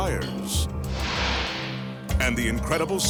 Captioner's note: light beam swishing